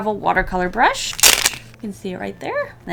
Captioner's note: riiip!